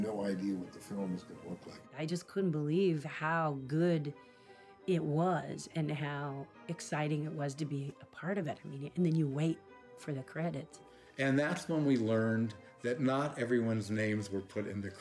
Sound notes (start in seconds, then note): none